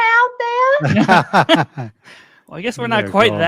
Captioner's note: chuckle